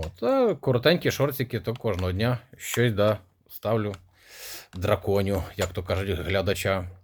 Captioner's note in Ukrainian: сопіння